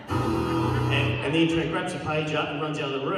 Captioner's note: buzz